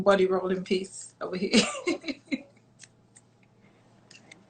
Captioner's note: laughs